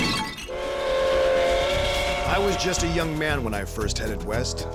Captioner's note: train whistle; clay pigeon explodes